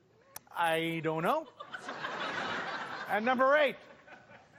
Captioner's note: laughter